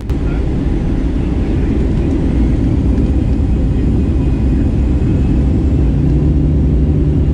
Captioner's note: engines get up to speed